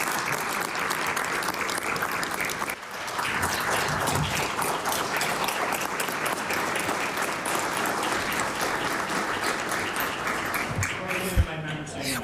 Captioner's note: applause